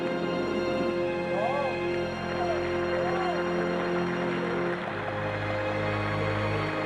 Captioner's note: applause